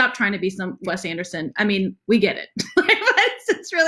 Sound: laughs

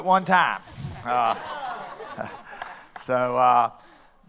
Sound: laughter

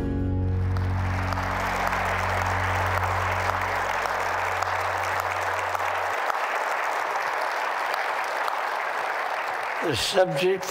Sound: applause

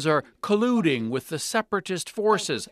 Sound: speaking alternate language

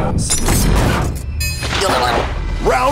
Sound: dinging sound

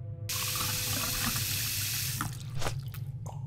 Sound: water running; slurping

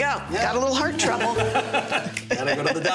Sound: laughter

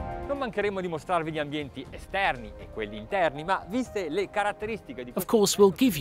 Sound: exciting music; speaking in foreign language

